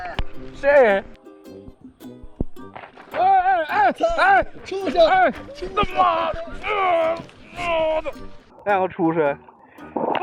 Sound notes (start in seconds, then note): 5.7 the voice sounds like a cow, very powerful